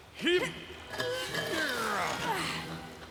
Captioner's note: both Straining